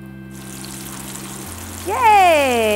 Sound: oil sizzling

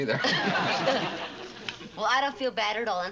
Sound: all three laugh

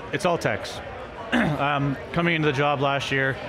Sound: clears throat

